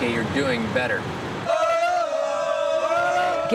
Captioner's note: students holler in unison